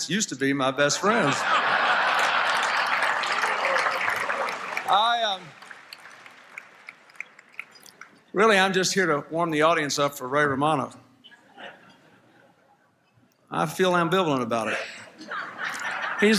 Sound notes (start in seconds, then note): 1.0 applause, Laughter